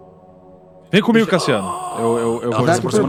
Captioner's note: Sukkal growls